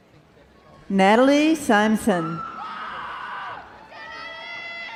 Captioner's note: crowd cheering